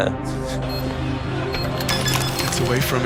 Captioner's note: laughs; bomb beeping